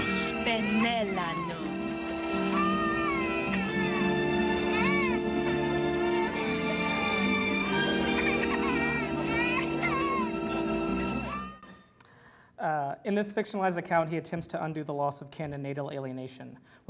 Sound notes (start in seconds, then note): 0.6 foreign language; 3.1 baby cries